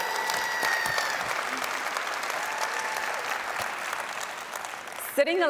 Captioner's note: applause